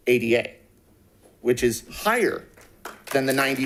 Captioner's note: audience claps